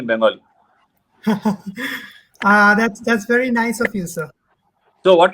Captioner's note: laughs